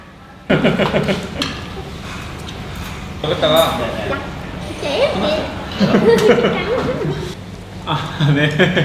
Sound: eating deliciously

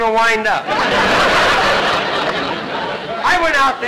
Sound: audience laughter

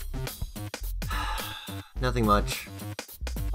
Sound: sigh

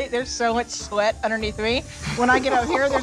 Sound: laughs

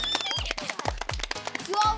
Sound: cheering

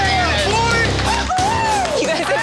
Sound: cheering

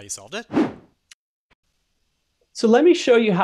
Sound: air whooshing

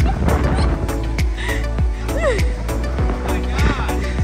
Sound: laughing

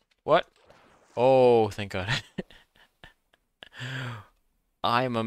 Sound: laughs

